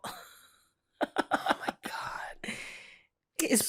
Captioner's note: chuckling